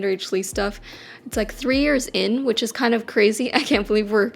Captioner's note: laughs